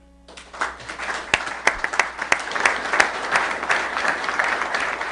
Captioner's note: applause